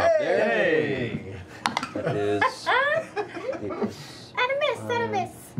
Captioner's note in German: Lachen